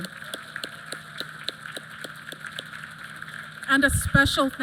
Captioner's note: applause